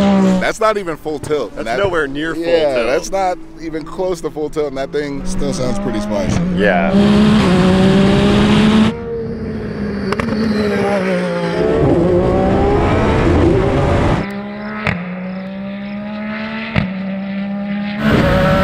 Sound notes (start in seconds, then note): 6.9 engine Revving